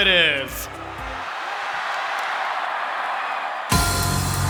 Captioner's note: screams of excitement; exciting music playing